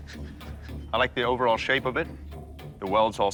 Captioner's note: chuckles